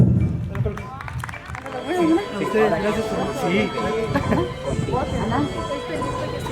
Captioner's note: people talking